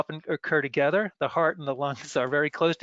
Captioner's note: laughs